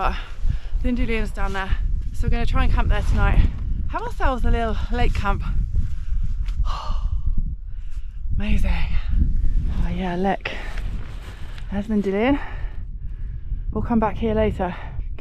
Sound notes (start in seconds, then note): 6.6 sigh